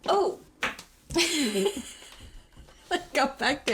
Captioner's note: chuckles